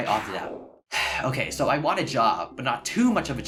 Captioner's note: sigh